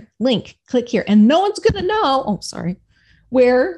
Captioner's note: hand thumping